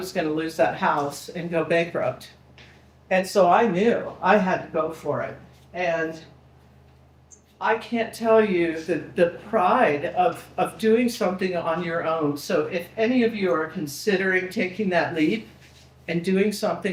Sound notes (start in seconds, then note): none